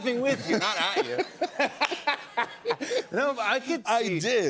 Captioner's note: laughter